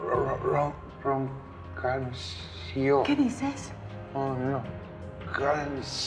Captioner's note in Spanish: Sonidos guturales